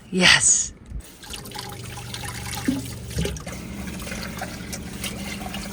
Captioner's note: water swooshing